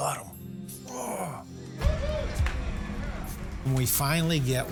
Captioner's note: people cheering